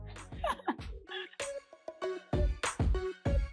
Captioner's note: laughs